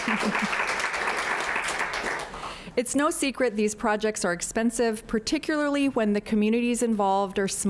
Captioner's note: applause